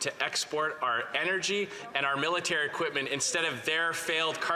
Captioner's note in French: voix de l'interprète